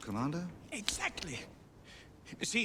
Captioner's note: clicks fingers